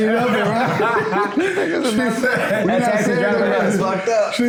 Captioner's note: laughing, talking over each other